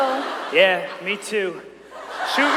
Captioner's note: audience cheering